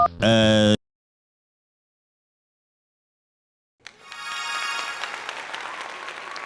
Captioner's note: applause